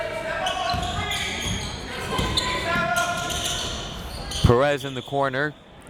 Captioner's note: crowd members shouting